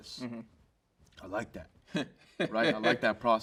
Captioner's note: host chuckles